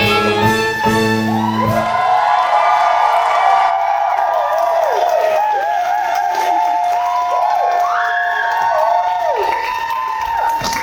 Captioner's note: audience cheering